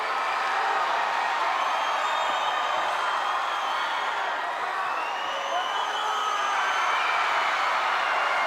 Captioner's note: crowd cheering